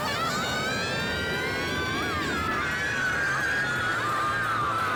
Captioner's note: screaming